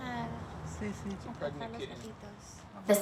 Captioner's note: speaking in Spanish